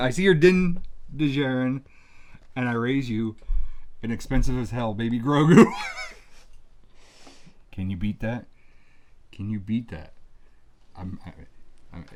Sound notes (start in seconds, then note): 5.4 laughs